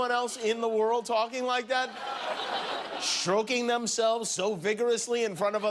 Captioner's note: laughter